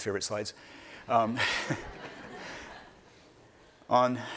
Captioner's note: laughing